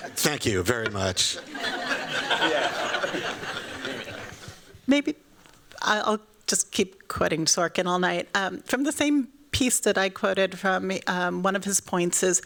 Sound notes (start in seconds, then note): 1.3 laughter